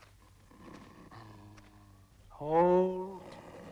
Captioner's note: dog growling